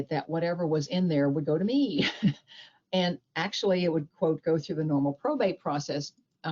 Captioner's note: chuckles